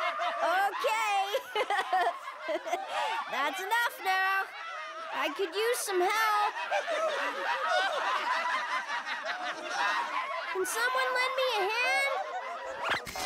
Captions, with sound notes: OKAY. (GIGGLE) THAT'S ENOUGH NOW. I COULD USE SOME HELP. (LAUGHING HYSTERICALLY) CAN SOMEONE LEND ME A HAND?